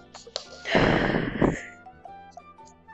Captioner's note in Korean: 한숨